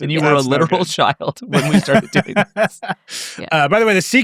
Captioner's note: laughing